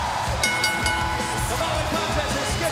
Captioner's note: bell ringing